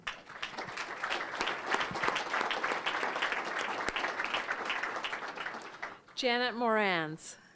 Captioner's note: applause